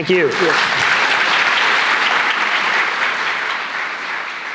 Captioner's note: applause